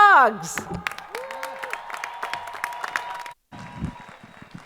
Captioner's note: crowd applauding